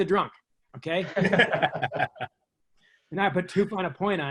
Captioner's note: laughs